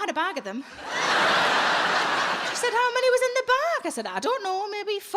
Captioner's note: audience laughs